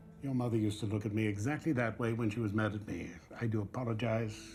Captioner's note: none